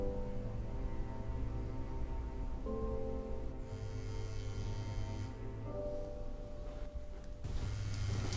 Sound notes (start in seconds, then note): 3.8 cell phone buzzes